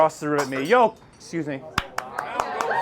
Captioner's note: glass shatters; audience applauds